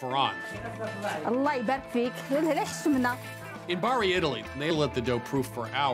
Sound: speaking Arabic

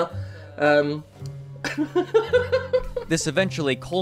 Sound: laughs

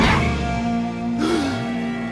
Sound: gasps

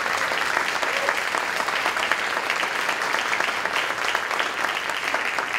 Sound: applause continues

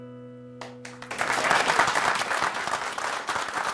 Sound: applause

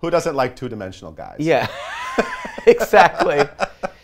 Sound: laughs

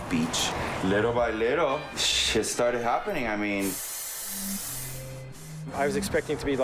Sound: spray can

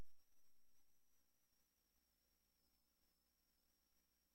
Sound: silence

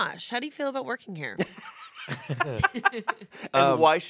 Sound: laughs

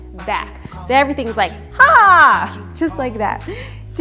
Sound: shouts

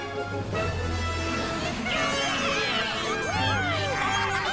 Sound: cheering

